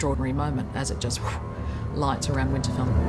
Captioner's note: blows